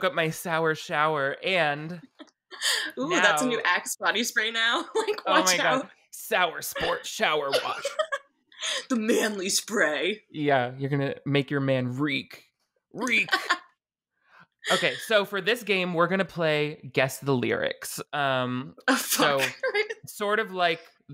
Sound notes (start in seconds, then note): 6.7 laughing; 14.6 laughing